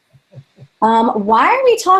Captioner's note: laughing